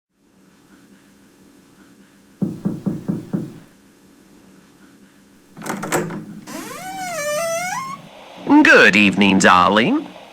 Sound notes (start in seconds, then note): 2.4 knocking on door fx; 5.6 door opens fx, radio static fx